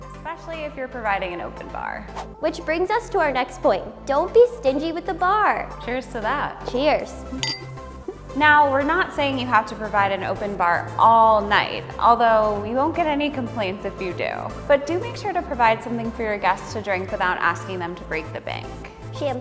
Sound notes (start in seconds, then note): 2.1 swooshing; 7.2 glasses clink